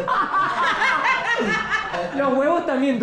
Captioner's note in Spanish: Carcajadas